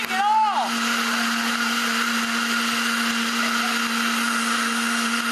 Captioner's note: audience laughing